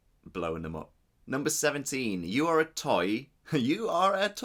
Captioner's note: laughs